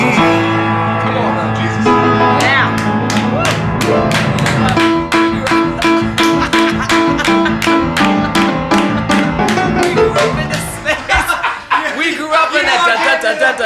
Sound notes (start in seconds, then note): 3.6 all clapping